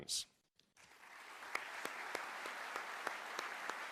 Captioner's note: applause